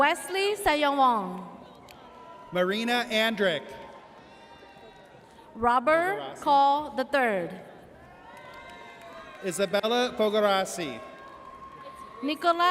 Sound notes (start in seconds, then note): 8.1 audience cheers